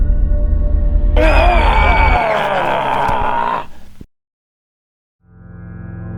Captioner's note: woman shrieks; Mad Umpire roars